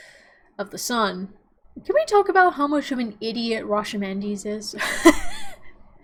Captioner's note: chuckles